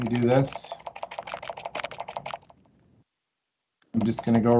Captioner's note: mouse clicking